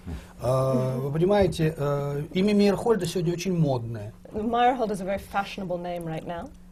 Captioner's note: foreign language not transcribed